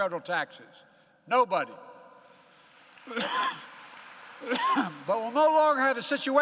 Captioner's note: applause